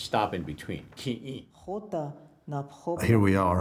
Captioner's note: woman speaking Lakota